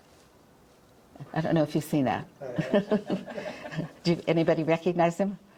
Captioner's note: chuckles